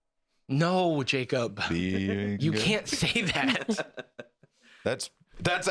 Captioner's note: laughs evilly